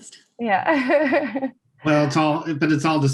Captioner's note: laughing